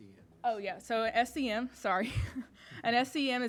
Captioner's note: laughing